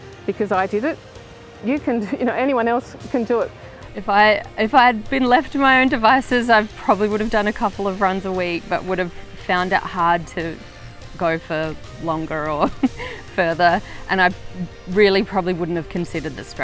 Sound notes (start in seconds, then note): 12.5 chuckles